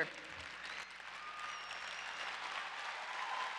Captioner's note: applause